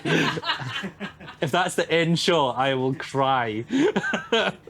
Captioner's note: laughing